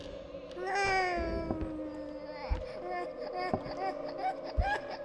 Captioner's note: sad baby sounds